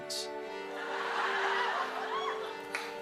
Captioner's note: laughter